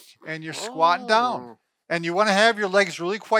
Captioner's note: grunting